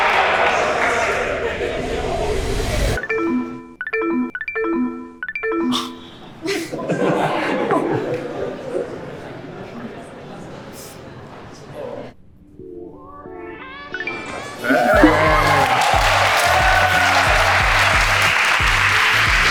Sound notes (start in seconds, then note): 3.0 electronics beep; 5.9 man exhales; 6.4 group chuckles; 6.4 woman giggles; 6.6 group chattering; 14.3 electronics ring; 14.6 group applauds